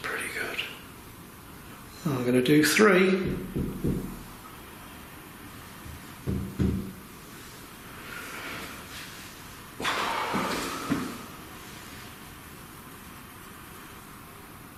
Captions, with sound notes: That's pretty good. I'm gonna do three. (thuds)